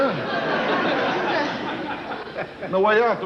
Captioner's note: audience laughing